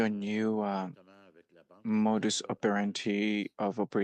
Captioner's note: speaking French